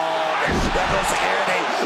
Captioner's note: crowd cheers